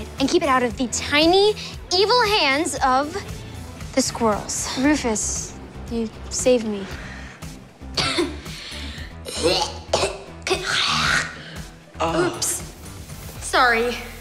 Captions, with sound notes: and keep it out of the tiny, evil hands of... the squirrels. Rufus, you... saved me. [coughing] [gagging] - Oops, sorry! - Oh...